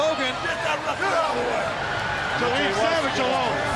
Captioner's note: Hogan faintly speaking